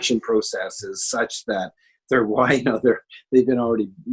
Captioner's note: chuckles